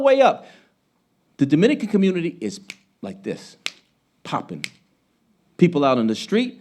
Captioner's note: snapping